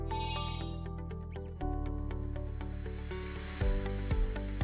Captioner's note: chimes tinkling